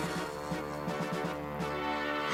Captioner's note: gasps